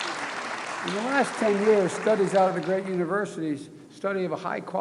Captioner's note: applause